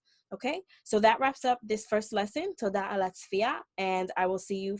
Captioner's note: speaking Hebrew